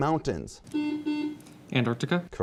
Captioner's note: buzzing